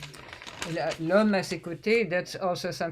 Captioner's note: french